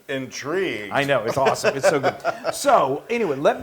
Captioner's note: laugh